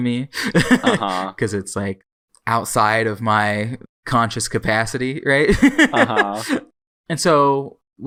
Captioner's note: laughs; laughs